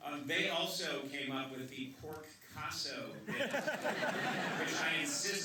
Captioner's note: laughter